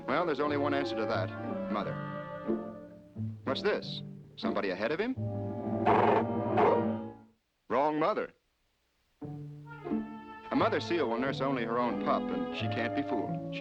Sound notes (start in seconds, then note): 6.5 growling